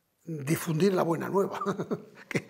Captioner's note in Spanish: Ríe